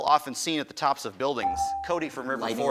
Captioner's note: buzzer dings